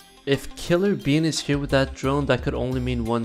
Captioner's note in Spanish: none